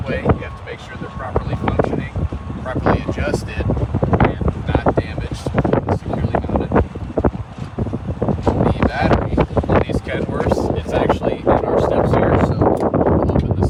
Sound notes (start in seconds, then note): none